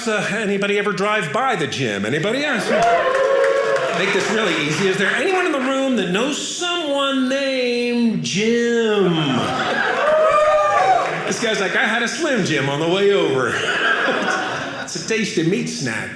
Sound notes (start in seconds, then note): 9.4 audience cheering